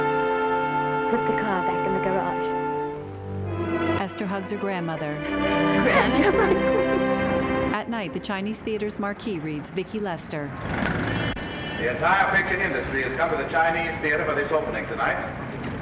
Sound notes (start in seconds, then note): 5.8 Esther and Lettie laughing; 8.6 traffic din